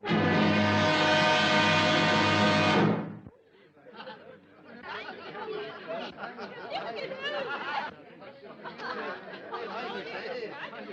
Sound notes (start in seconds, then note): 0.0 dramatic music; 3.4 laughing and chatter